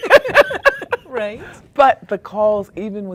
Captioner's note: laughter